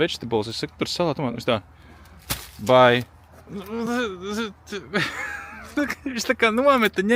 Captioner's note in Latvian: smiekli